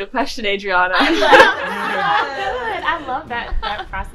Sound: laughs

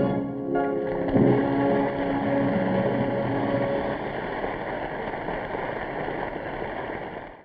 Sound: audience applauding

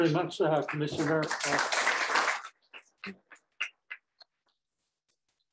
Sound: applause

